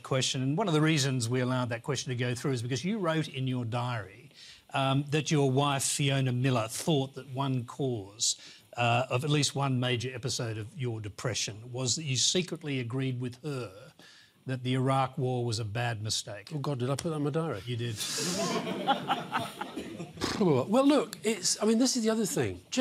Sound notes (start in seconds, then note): 18.0 laughter